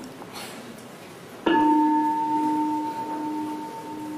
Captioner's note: bell